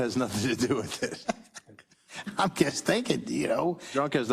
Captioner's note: laugh